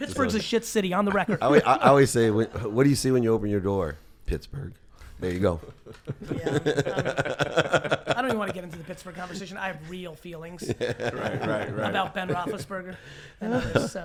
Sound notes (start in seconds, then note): 5.6 laughs